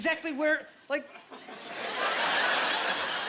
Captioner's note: laughing